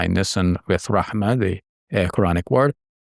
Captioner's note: speaking Arabic